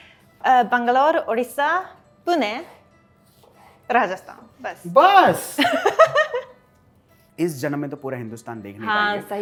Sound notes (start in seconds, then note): 5.6 laughter